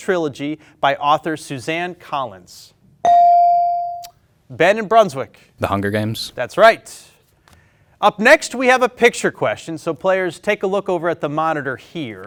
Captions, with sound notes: by author Suzanne Collins? (ding chimes) Ben in Brunswick. - "The Hunger Games." - That's right. Up next, we have a picture question, so players, take a look over at the monitor here.